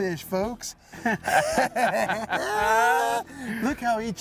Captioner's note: laughing